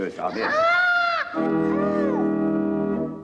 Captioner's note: crying continues over music